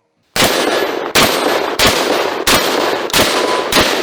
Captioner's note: gunshots